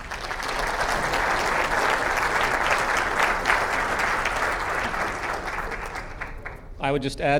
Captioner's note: clap